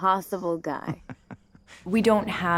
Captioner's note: Joel chuckling